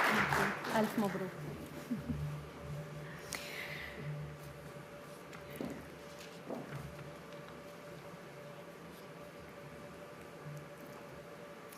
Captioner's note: applause